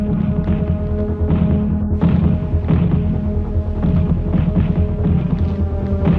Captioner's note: deliberative music; explosions blasting